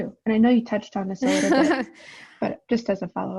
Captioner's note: laughing